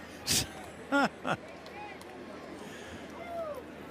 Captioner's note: laughs